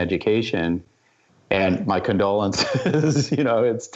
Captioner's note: laughter